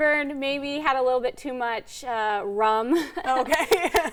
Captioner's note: laughs lightly